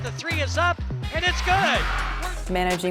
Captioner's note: crowd cheering